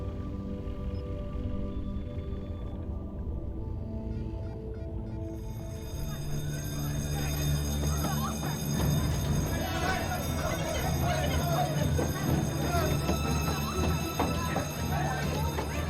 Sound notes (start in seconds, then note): 5.7 bell ringing; 7.0 people chattering frantically